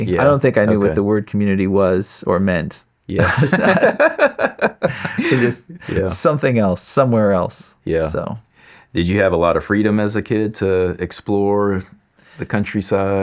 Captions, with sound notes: I don't think I knew where the word community was or meant. Yeah. (Laughing) Something else, somewhere else. Yeah. Did you have a lot of freedom as a kid to explore the countryside?